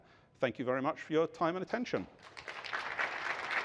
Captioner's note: applause